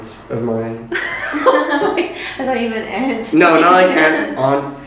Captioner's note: laughter